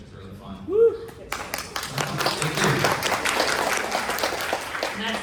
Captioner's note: applause